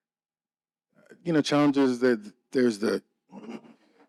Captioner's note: clears throat